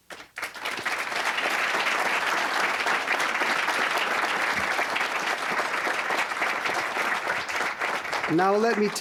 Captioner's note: applause